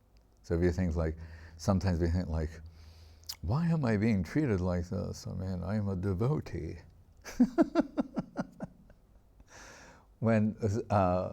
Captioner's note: laughing